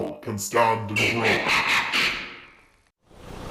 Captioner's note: screeching; engine rumbling